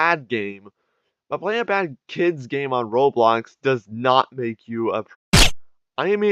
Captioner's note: silenced gunfire